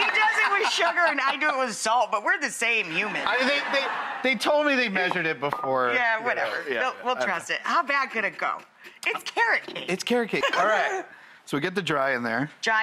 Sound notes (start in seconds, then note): 2.9 audience laughing